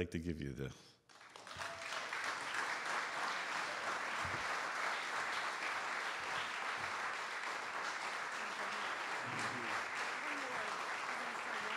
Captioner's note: audience Applause